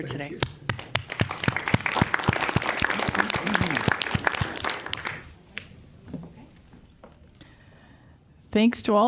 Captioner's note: applause